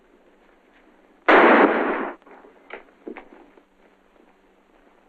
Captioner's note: gunshots